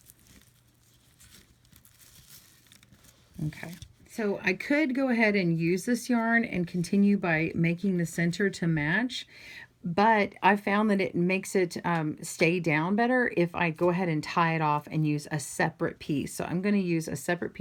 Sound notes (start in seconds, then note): 0.0 raffia rustling